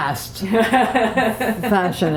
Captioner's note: laughter